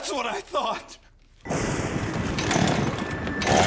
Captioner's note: thunder booming